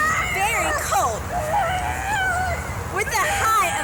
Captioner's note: friend screams